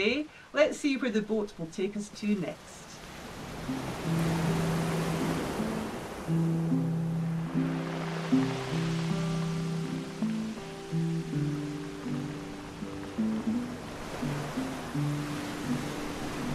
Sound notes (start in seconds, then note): 3.9 waves rolling; 8.2 acoustic guitar playing